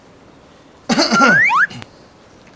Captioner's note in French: tousse